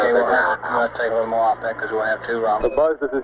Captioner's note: mission Control Audio